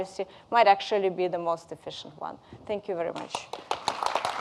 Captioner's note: audience applauding